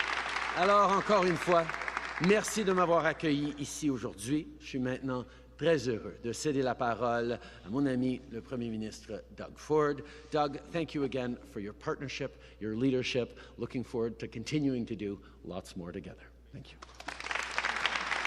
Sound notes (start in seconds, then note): 1.8 applause; 5.7 speaking in french